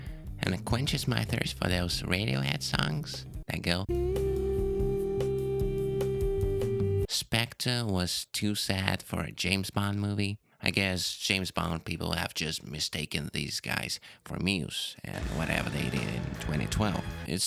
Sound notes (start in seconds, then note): 3.9 eeeeeeh